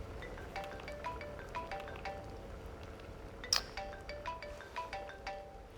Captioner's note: phone ringing